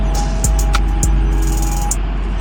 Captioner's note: bus driving; noisy city